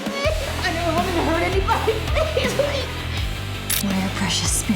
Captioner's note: sobs